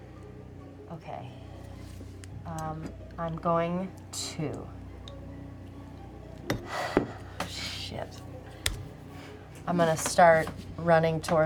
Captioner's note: sighs